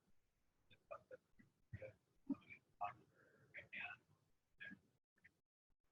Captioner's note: speaking away from mike